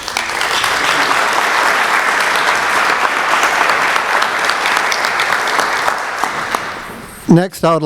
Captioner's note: applause